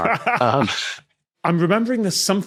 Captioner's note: snickers; laughs